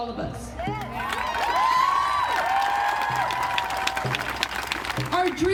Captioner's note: crowd cheering and applauding